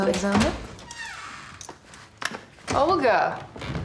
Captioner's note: door creaks